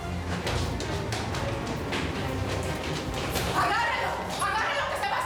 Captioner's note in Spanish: Ruidos al correr